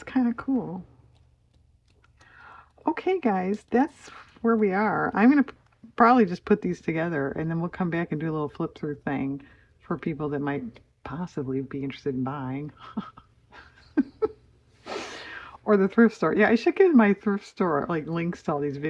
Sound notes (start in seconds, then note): 13.4 laughs